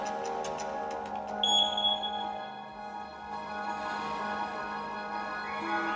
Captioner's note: suspenseful music; beeps